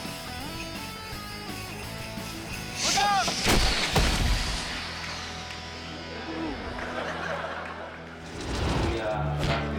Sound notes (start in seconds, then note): 5.9 audience laughing